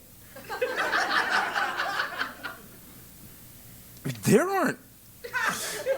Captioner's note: laugh